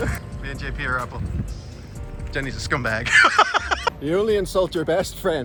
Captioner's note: laughs